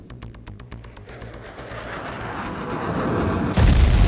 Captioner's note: weapon blasts; shot whirring; loud boom